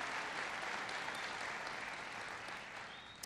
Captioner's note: applause